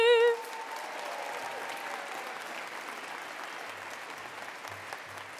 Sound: attendees applauding

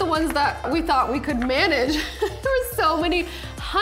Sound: laughing

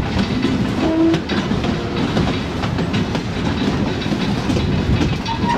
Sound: train chugging

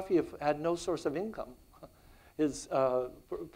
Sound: chuckles

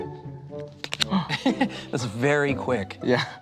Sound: laughs

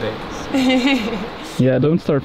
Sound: laughs

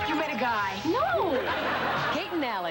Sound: laugh track

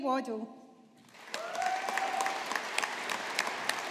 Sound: audience applauding

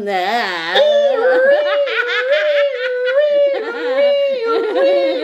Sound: laughing; imitates a siren; laughing

